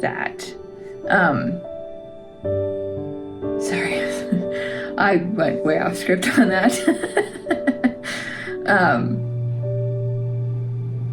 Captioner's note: laugh